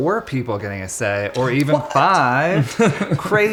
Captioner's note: laughing